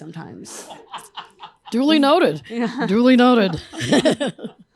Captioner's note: laughter